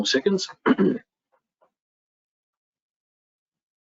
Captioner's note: clears throat